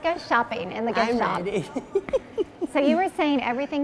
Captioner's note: laughing